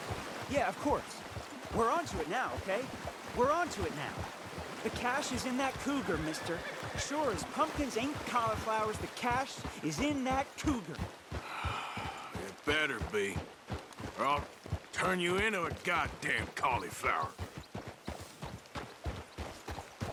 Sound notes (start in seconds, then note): 11.4 sighs